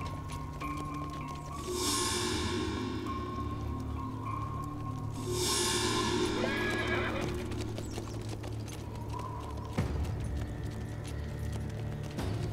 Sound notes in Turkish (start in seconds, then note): 0.5 Gerilim müziği; 5.6 At kişniyor; 8.3 Gerilim müziği